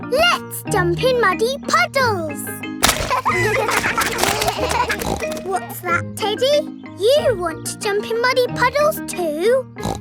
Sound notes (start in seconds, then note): 2.9 kids laughing; 3.6 snorts